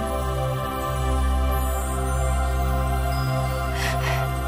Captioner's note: Princess Oren sighs; bells chime; Dark Oren cries